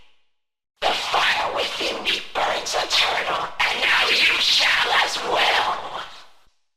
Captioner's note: voice with Rapidly Shifting Pitch